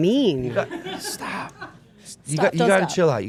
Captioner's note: laughing